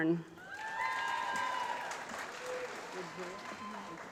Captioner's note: applause